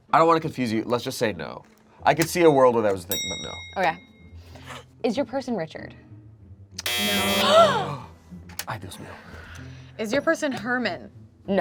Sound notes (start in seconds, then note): 3.0 bell clicking sound; 6.8 buzzer buzzes